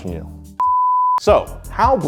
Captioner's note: beeping